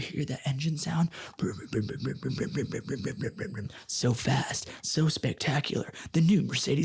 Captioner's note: mimics engine rumble